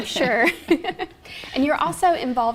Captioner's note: laughing